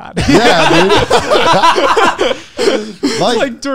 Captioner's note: laughing